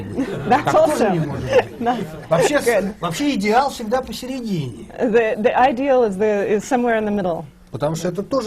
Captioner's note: foreign language not transcribed